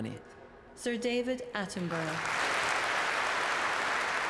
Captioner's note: applause